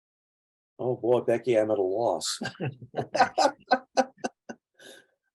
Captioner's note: chuckling